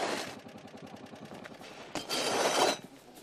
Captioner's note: scrapes